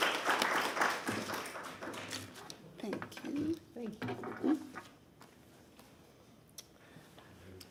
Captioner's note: applause